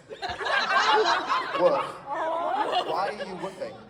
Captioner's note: audience laughs